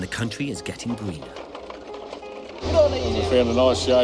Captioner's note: donkey cart rattles